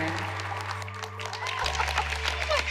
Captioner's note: laughs